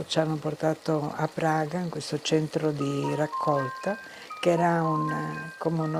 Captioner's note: speaking in foreign language